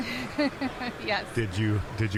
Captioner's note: laughing